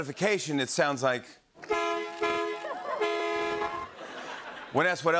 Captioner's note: horn honking